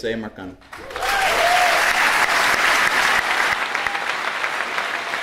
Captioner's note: audience applauding